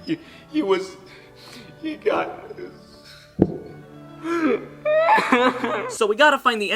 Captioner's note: crying